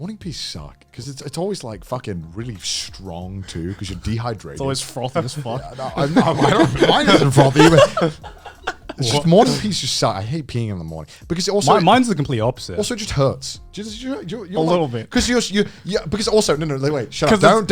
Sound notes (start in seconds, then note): 8.2 laughs